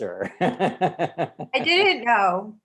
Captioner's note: laughs loudly